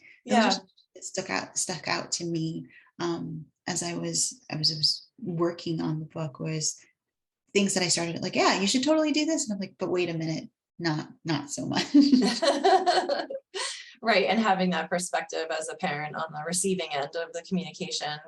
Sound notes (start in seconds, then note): 11.9 both laugh